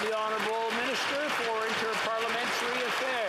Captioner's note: some Applause